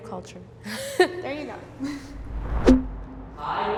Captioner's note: laughing; chuckles